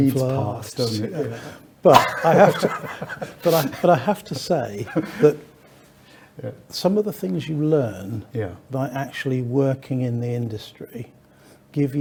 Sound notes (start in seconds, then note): 1.9 both laughing